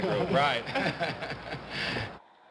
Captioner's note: chuckling